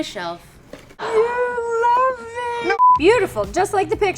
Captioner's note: beep